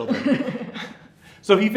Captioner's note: laughing